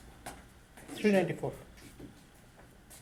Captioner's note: voiceover